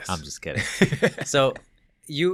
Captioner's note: laughing